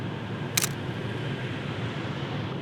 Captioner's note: camera Shutter